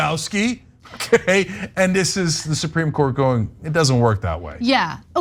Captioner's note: laugh